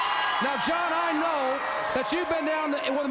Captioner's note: crowd cheering